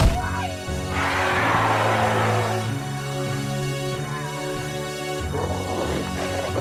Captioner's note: Farley screaming; trog growling